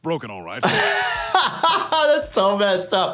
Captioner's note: he laughs